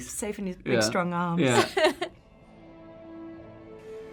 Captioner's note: host giggling